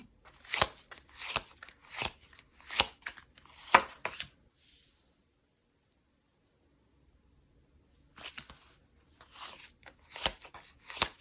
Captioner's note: drawing cards